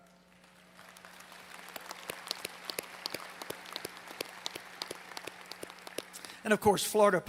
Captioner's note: applause